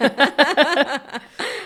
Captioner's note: both laughing